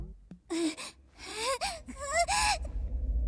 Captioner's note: panting